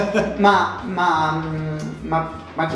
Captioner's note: laugh